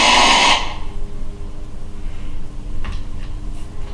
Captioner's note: static